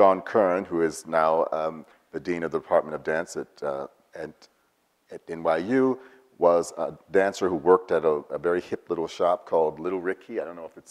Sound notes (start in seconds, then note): none